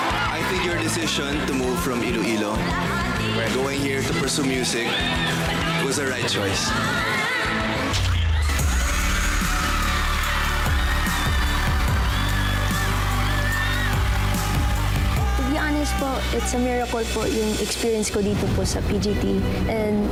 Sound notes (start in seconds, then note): 8.4 triumphant music playing; 9.1 cheering, applause